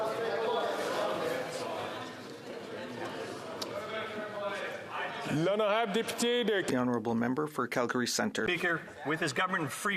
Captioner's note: chatter